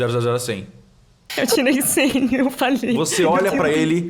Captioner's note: laughing